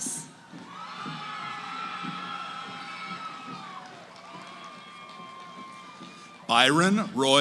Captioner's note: cheering